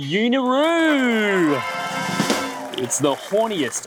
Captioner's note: audience cheering